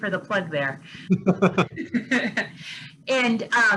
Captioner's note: laugh